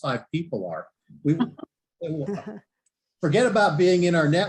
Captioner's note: laughs